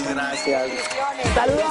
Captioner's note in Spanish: aplausos